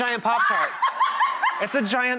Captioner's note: laughing